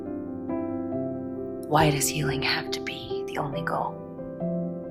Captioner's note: voiceover